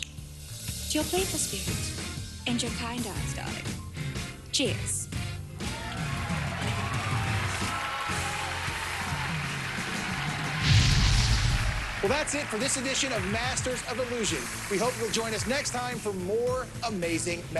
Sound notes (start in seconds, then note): 7.5 audience cheers; 10.6 explosion